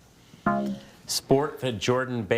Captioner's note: bell blares